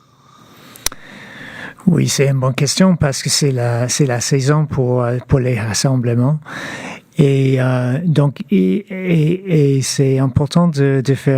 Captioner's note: speaking French